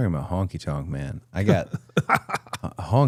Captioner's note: Jimmy laughing